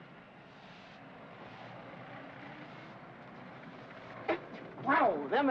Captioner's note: city street sounds